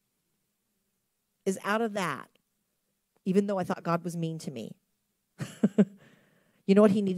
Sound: chuckles

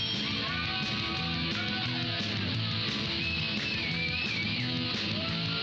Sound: bell softly chimes; hard rock music; cheers and applause

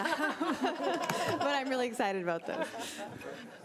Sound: all laughing

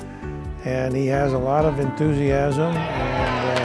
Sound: background applause

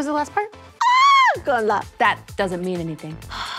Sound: shrieks

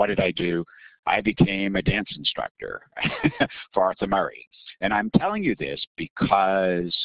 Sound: laughing

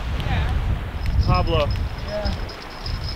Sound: bell jingling

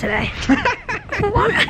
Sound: laughing

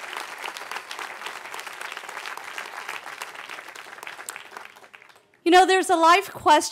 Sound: cheering

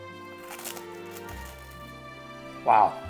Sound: bread crunching

